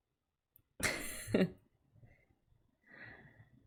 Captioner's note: laughs